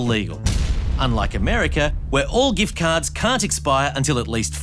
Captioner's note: gunshot